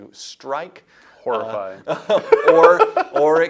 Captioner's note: laughs